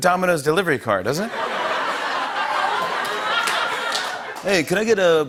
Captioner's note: laughter